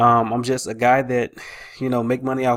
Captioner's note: sighs